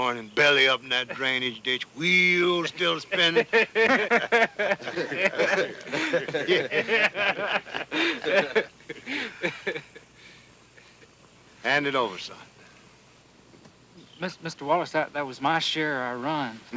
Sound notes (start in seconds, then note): 2.4 laughing